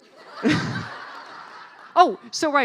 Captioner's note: laughing